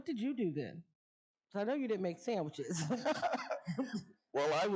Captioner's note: laughs